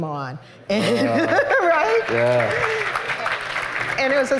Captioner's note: laughter and applause